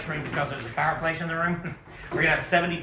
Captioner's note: chuckles